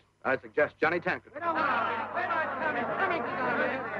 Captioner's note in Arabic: يتحدث الحشد مع بعضهم البعض